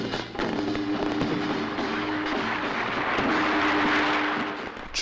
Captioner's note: sound of fireworks exploding